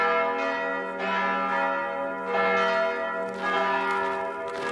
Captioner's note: church bells ringing